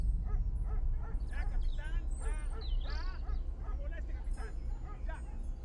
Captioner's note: dog barking